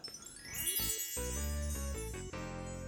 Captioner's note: chimes; soft upbeat music